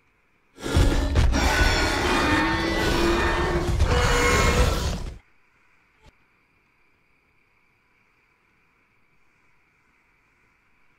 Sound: Scorpius Rex roaring

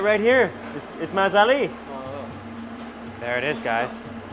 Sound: in foreign language

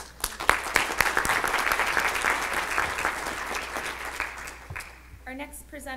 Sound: clapping

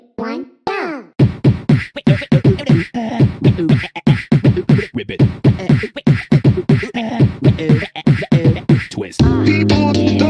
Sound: beatboxing

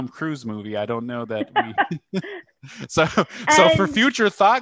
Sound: laughter

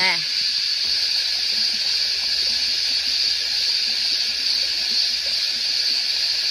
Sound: creek burbles loudly

